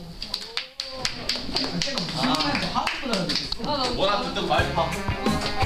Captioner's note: Applause from PRO Team